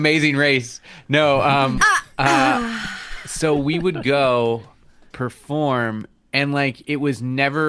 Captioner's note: smug, satisfied noise